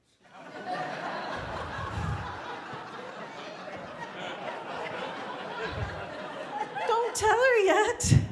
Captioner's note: laughter